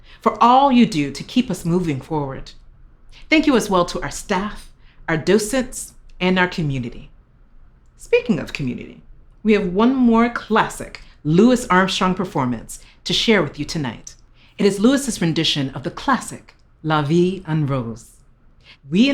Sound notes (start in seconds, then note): none